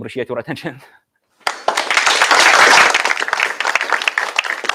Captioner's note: applause